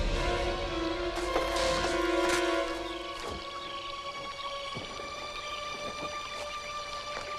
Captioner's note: moves to low tense music; branches cracking